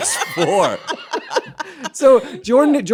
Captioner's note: laughter